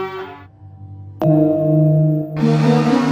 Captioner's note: gong sound; exuberant music